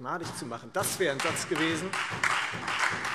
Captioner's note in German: Beifall Freie Demokraten, SPD und DIE LINKE